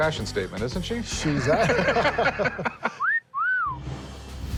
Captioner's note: laughter